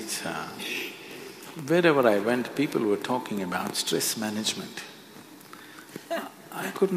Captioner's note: few laugh